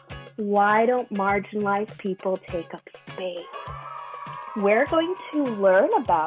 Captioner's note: children cheer